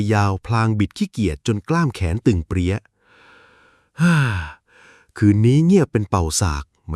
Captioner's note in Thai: เสียงถอนหายใจ